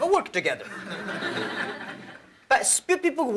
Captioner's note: laughter